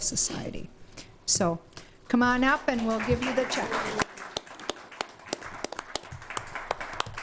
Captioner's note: applause